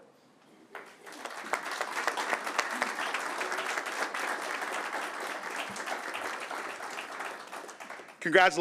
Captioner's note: applause